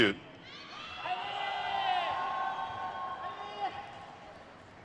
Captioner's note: crowd cheers